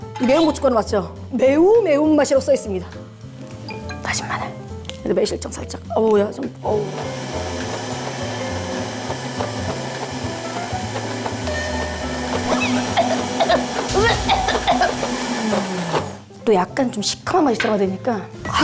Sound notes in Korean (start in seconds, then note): 12.5 매운 향에 터지는 기침